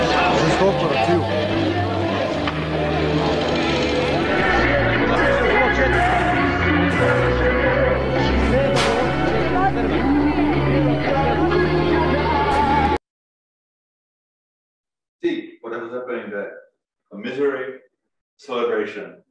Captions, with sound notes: (celebrants chattering in foreign language) See what was happening there? A misery, a celebration,